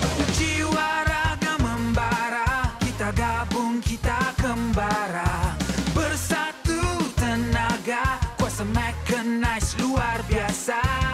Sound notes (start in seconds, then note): none